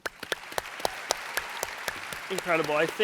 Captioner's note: audience applauds